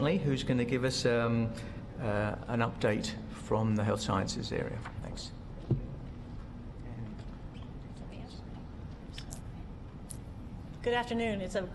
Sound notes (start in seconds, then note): none